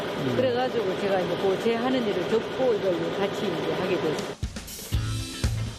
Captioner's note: food processing